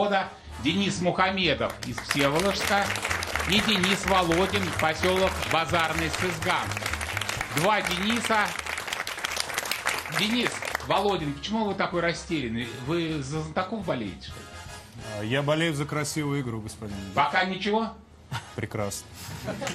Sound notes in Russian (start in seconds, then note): 1.6 аплодисменты